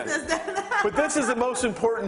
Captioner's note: laughing